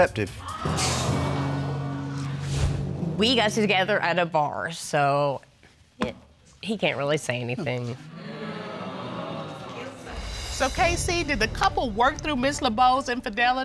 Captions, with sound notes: [audience gasps] We got together at a bar, so... he can't really say anything. [audience groans] So, KC, did the couple work through Ms. Lebeau's infidelity?